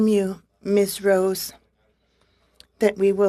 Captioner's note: speaking French